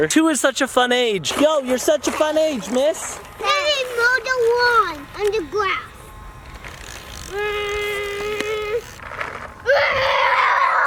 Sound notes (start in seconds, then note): 6.3 mowing noises